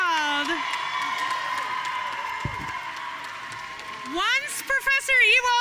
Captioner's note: audience cheering and applauding